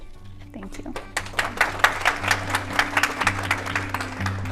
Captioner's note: applause